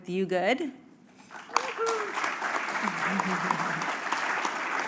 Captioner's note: applause